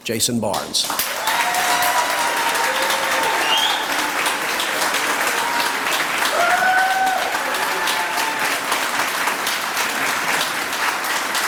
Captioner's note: applause